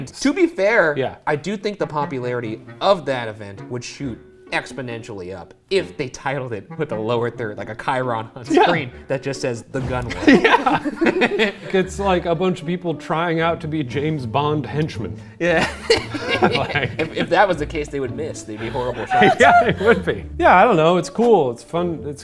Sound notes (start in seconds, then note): 10.0 laughing happily; 15.5 laughing happily